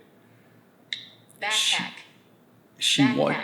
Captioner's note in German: Sprecher klickt